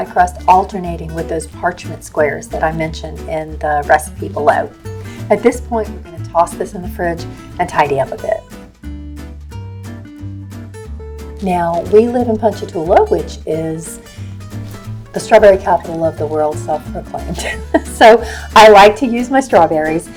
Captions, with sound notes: then you're going go stack them, alternating with the parchment squares that I mention in the recipe below. At this point we're going to toss them in the fridge and tidy up a bit. Now, we live in Ponchatoula, which is the Strawberry Capitol of the World- self proclaimed. (laughs) So, I like to use my strawberries